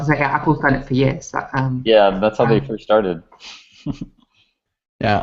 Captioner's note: laughs